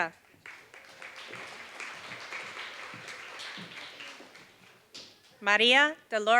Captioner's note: applause